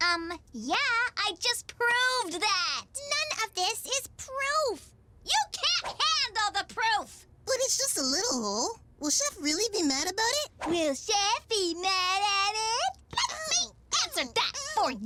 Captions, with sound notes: - Um, yeah, I just proved that. - None of this is proof. - You can't handle the proof! - But it's just a little hole. Will Chef really be mad about it? - (Mocking) Will Chef be mad at it?! Let. Me. Answer. That. - Ow. Ow. Ow.